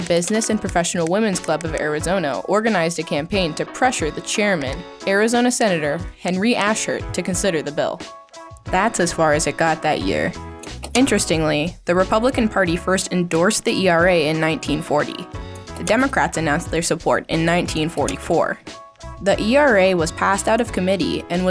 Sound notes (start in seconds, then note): 4.4 words click; 10.6 image clicks; 15.5 image clicks; 17.8 image clicks